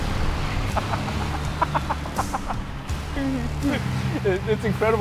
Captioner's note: laughs